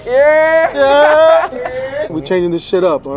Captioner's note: laughs